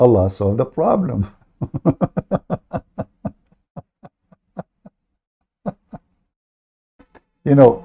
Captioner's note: Ketawa